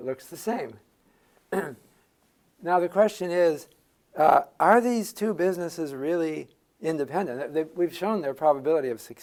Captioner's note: cough